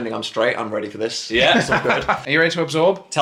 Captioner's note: laughs